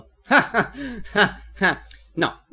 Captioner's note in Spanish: risas